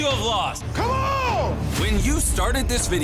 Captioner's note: screaming